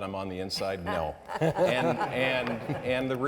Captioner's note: panellists laughing